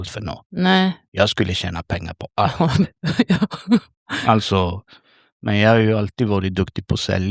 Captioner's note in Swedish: skratt